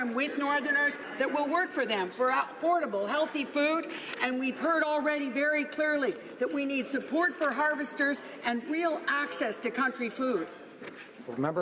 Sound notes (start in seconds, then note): none